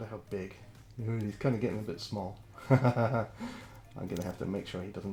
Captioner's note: laughs